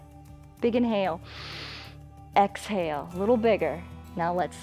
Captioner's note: inhales